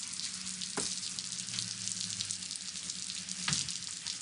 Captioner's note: rain falling